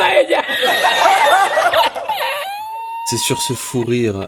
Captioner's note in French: Rires